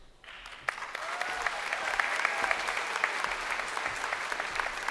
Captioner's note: crowd applauding